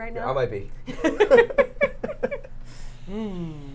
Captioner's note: laughing